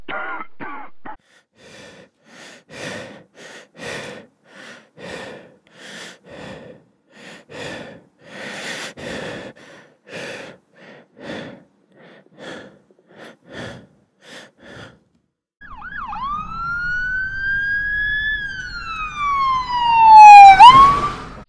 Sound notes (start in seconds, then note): 0.0 coughing; 1.2 labored breathing; 15.6 siren